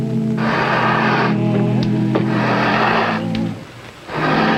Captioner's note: bellows blowing